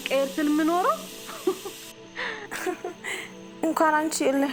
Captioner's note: laughter